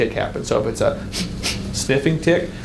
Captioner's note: sniffs